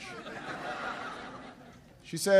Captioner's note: laughter